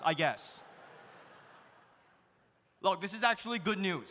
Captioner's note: audience laughs